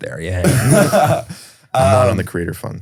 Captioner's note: laughs